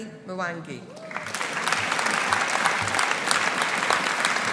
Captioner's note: audience applauding